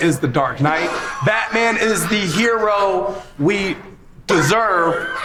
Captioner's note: laughs